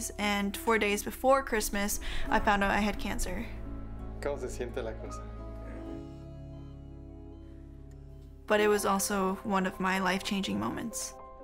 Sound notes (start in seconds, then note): 4.0 man speaking foreign language